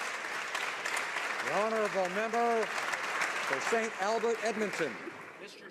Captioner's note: applause